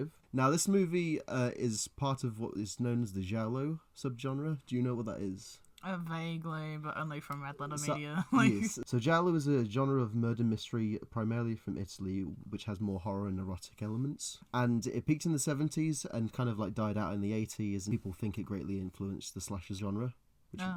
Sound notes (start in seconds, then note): 8.1 laughs